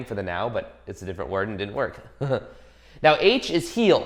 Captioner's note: chuckles